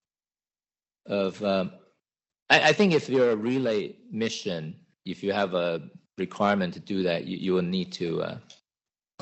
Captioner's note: laughs